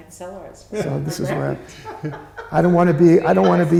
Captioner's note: laughs